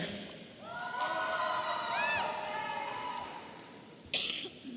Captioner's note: audience cheering